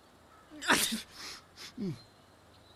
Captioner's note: Dito sneezes